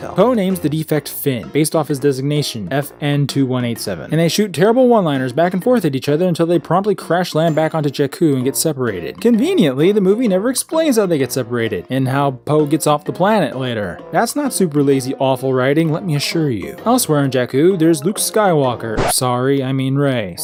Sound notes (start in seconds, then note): 18.9 record scratch